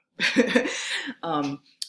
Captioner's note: chuckling